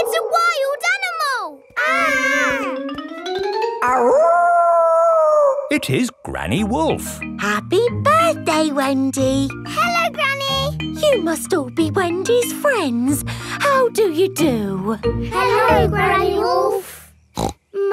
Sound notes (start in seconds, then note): 1.7 kids yelling; 3.8 howling